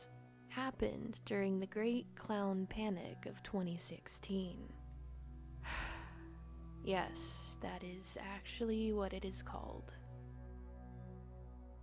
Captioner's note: sigh